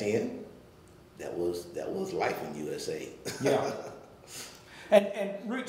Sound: laughing

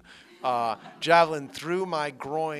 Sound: laughter

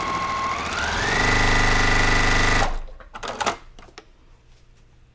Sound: sewing machine whirring

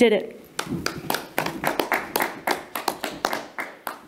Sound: people clapping

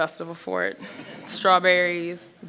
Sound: audience laughs

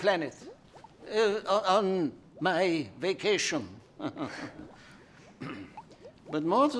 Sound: laughs

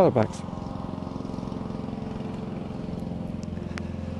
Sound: mower groaning

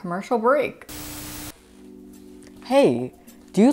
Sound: static noise

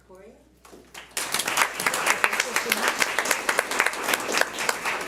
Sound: audience applauds

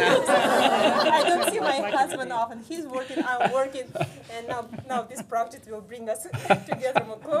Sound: laughter

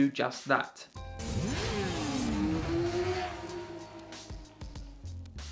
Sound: bike engine revving

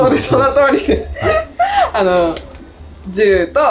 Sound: laughs

